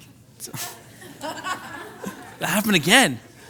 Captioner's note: laughing